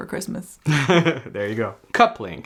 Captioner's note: laughs